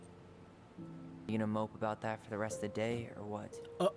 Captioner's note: none